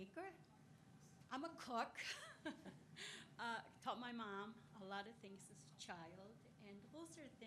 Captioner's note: laughs